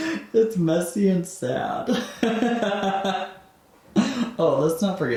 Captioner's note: laughing